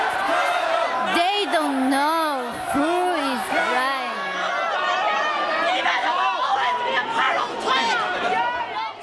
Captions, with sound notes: They don't know who is right. (shouting)